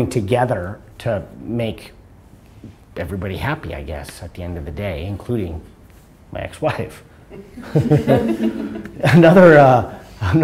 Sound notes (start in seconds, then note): 7.4 laughter